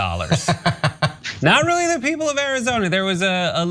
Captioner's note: laugh